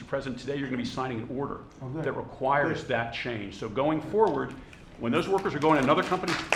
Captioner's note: applause